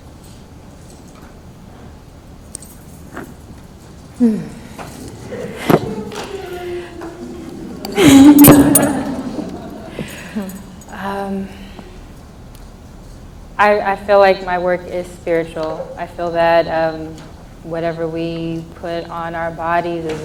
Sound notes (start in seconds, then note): 4.2 sigh; 5.8 laughs